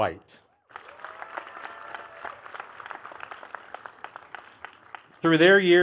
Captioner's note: attendees cheering and clapping